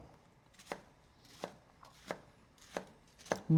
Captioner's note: slicing